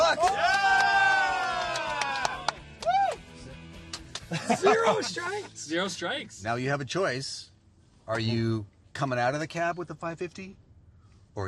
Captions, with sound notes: ya, is 550 bucks. [Cheering & applauding] Woo! [Laughing] Zero strikes! Zero strikes. Now, you have a choice. Are you coming out of the cab with the 550?